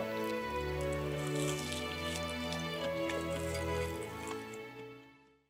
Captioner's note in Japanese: 咀嚼音